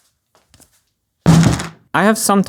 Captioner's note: whack